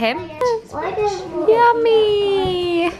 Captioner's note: children talking indistinctly